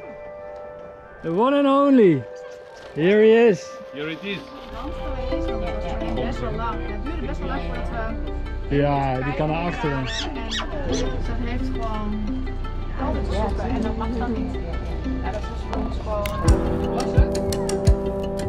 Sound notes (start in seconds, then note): 0.3 relaxing music; 5.4 mellow music; 7.6 conversations in Dutch